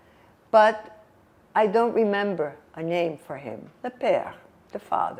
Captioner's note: french